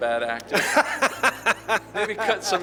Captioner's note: laughs